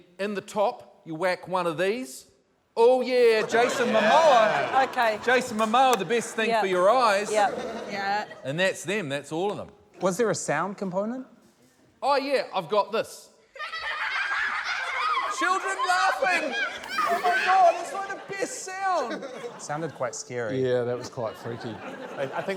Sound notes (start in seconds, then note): 13.5 children laugh on recording